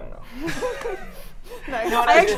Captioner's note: women laughing